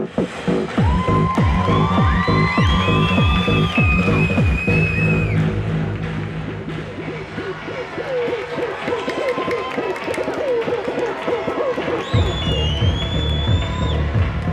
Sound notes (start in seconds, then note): 0.1 techno; 3.1 cheering